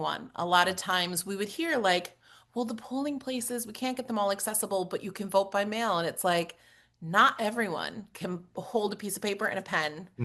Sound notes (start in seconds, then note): none